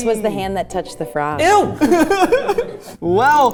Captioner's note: laughing